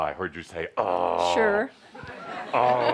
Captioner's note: laughter